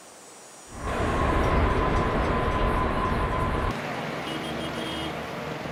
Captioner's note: train bell clanging; car honking